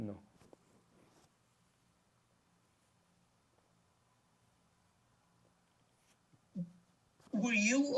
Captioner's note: pauses 6 seconds